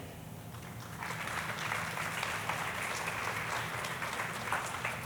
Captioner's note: audience applauding